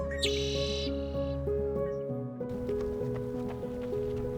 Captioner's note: gentle music continues; bird chirping; feet thumping